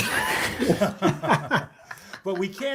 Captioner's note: laughter